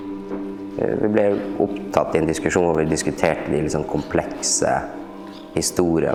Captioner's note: speaking in Norwegian language